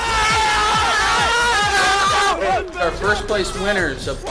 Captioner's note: cheering